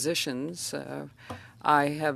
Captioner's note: speaking French